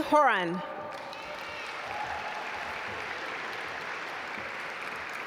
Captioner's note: audience applaud